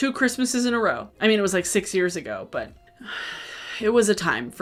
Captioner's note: sighs